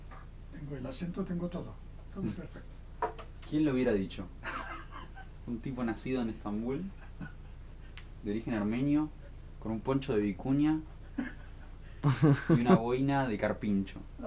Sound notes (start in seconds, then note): 11.0 laughs x 1000